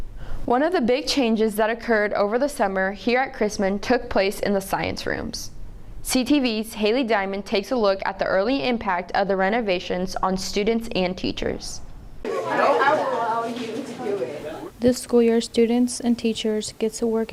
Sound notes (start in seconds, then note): 12.2 students talking natural sound